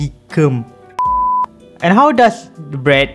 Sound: beep

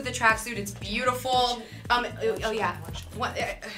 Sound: mutters

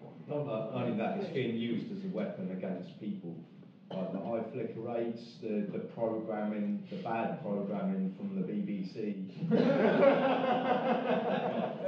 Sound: everyone laughing

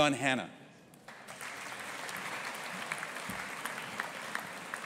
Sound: audience applauding

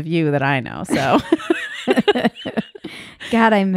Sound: laughing

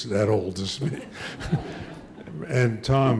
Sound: audience laughing; laughs

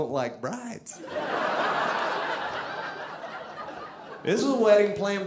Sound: audience laughing

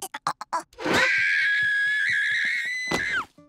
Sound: squeaking; screaming

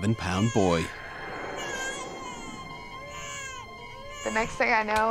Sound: baby crying

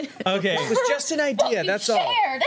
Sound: laughter

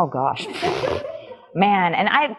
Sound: laugh

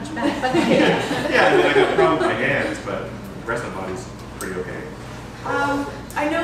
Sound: laughter

